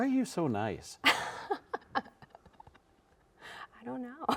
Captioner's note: laughing